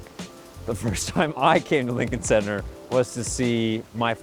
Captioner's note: chuckles